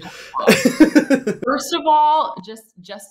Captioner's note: laughs